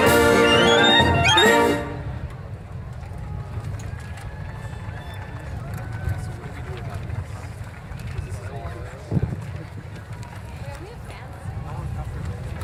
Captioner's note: applause